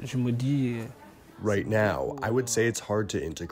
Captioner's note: through translator